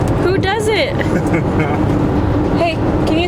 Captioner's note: laughing